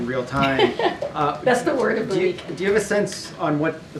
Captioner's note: laughter